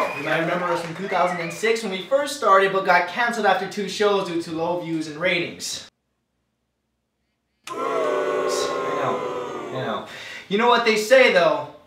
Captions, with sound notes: You might remember us from 2006 when we first started but got cancelled after two shows due to the whole views and ratings. (booing) I know. I know. You know what they say, though?